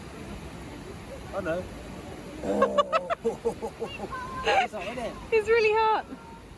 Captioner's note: winces while laughs